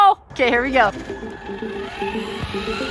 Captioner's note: wheels spinning; wheels accelerating